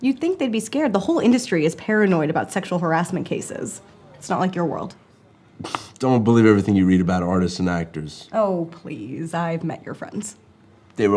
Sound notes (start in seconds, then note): 5.6 scoffs